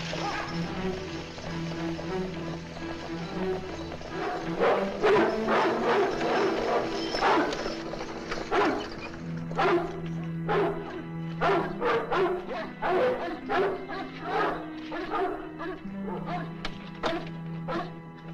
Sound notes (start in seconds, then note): 4.1 barking; 12.8 barking Continues